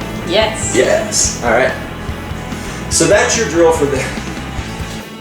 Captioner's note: laughs